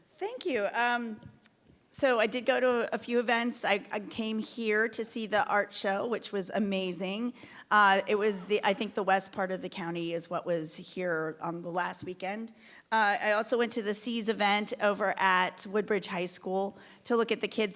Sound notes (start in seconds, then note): none